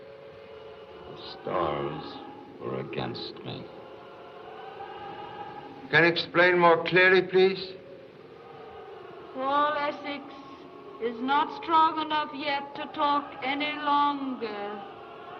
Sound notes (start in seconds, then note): 8.6 woman's Voice